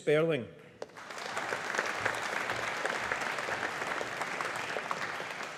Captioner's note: audience applauding